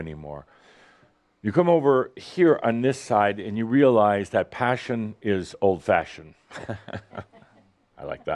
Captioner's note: Adamus chuckles